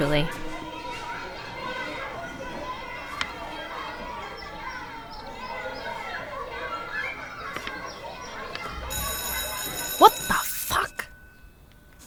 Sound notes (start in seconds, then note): 0.2 children shouting; 4.4 birds chirping; 8.6 school bell rings